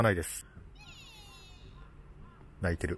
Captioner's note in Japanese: 鳴き声